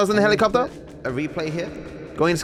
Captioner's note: voice echoes